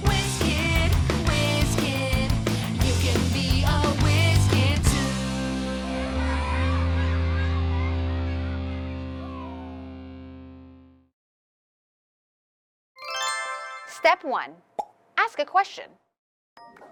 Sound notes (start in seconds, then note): 6.2 kids chittering; 13.1 revealing music; 16.7 bright music